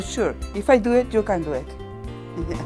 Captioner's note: laughs